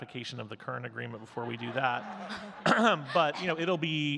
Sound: audience giggling

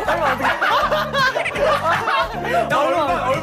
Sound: dying of laughter

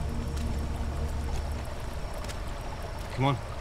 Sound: water splashes; insects chirp; water trickles

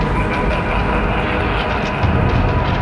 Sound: evil laugh

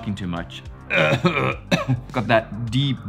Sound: tries to clear throat

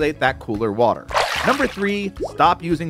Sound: water splashes

